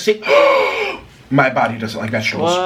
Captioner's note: Nikocado Avocado gasping